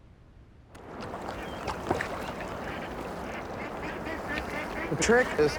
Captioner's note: birds squawking